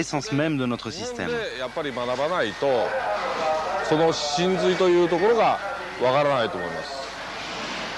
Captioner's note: applause